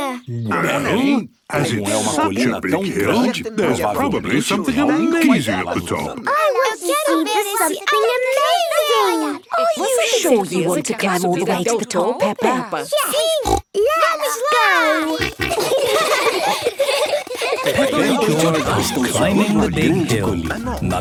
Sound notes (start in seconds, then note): 13.0 snorts; 14.8 snorting, giggling